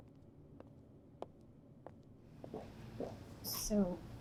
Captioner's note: footsteps tapping